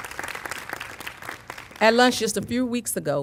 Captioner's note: applause